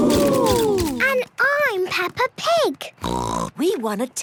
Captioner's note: snort